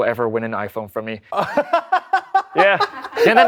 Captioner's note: laughter